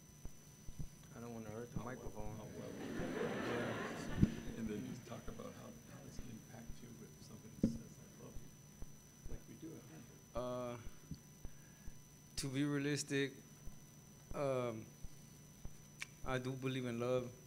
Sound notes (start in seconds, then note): 2.4 gathering laughing; 6.4 murmurs; 7.7 whispering